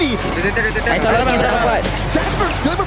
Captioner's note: overlapping chatter; in Malaysian; commentator 1, in English